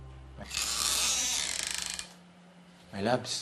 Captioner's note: creaking